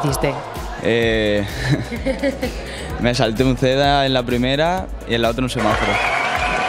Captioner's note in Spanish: risas